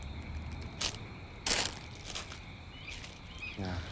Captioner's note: bag rustles